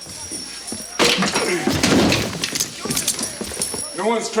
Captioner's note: chair clatters